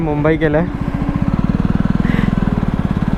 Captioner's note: laugh